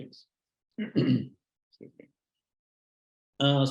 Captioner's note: clearing his throat